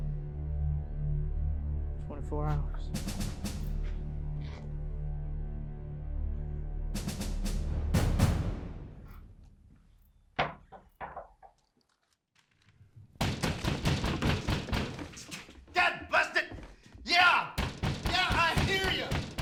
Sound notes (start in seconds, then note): 3.2 daunting music; 13.2 pounding at door